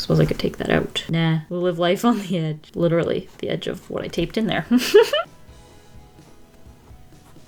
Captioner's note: giggles